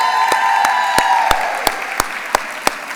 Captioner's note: audience cheers